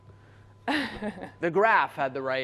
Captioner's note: laughs